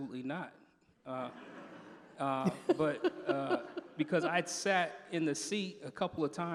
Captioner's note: laughter